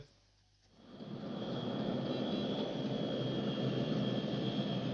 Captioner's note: plane whirring